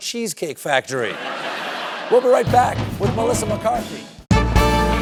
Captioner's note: laughter